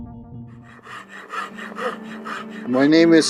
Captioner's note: panting